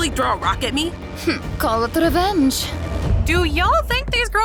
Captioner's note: scoffs